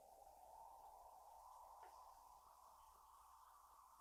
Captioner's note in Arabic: هبوب الرياح